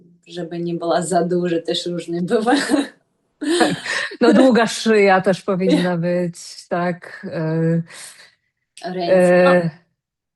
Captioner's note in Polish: śmiech